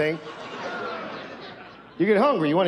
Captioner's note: audience laughs